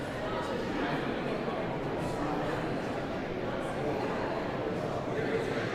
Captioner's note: audience chattering continues